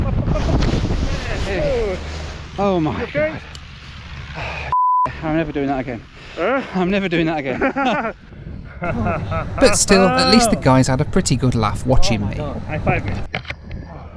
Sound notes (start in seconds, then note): 4.7 beep; 8.8 instructor laughing